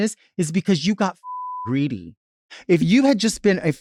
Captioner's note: beep